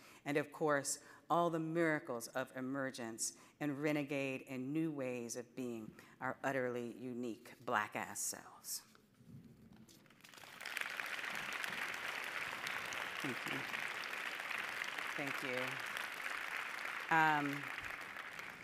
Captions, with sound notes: And of course all the miracles of emergence and renegade and new ways of being our utterly unique Black ass selves. (audience applauding) Thank you. Thank you.